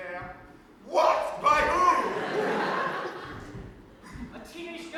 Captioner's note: audience laughs